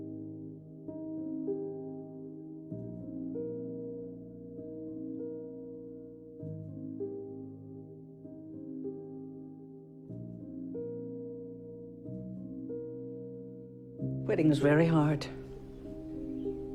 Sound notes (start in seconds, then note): 14.5 voiceover